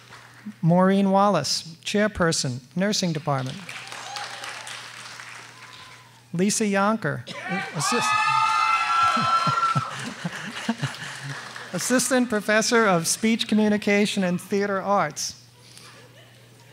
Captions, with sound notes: Maureen Wallace, Chairperson, Nursing Department. Liisa Yonker, (audience cheers and applauds) Assistant Professor of Speech, Communication, and Theater Arts.